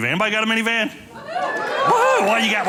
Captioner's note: audience cheering